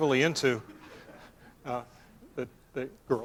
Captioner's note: laughter